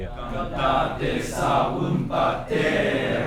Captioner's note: chior babbling